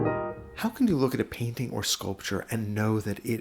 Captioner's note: voiceover